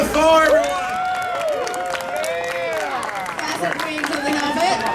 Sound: audience cheering

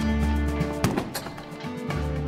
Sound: gunshot

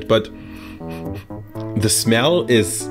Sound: sniffs

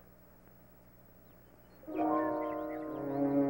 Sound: birds chirping; dramatic music

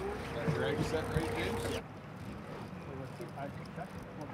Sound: reel cranking; background chatter

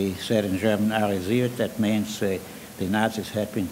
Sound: speaking in foreign language

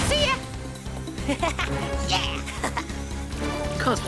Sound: Cozmo laughs

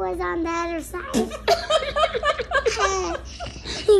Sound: laughing

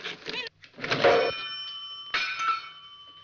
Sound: groaning; dings

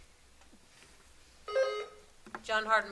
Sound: buzzer sounding

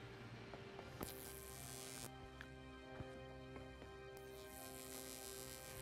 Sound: electricity humming

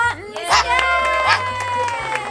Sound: crowd; applause

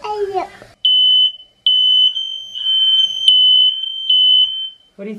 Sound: alarm beeps

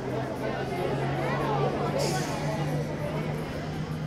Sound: bus engine revs; teens chattering

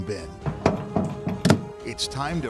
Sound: trash can opening

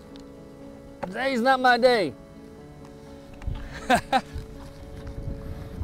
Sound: laughs

